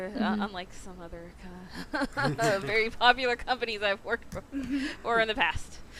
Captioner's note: rueful laugh